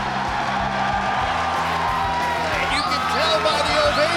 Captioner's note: crowd cheering